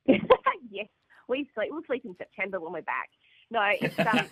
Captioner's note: laugh